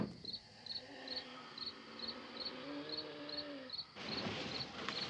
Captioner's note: wheezing, groaning